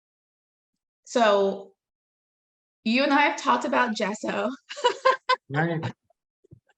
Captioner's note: laughing